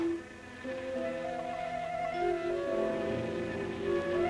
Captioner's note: buzzing